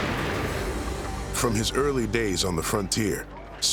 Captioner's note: fires rifle